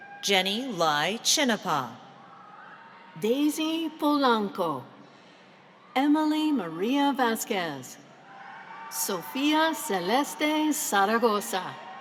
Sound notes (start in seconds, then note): none